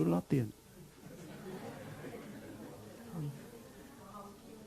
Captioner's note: audience laughs